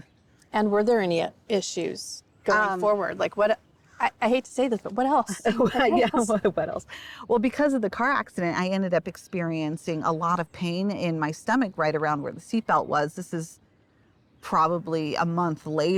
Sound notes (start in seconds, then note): 5.2 both laugh